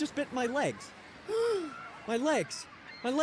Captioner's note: frightened gasp